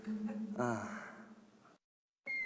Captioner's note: sigh